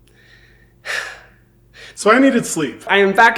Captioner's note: Hyram sighing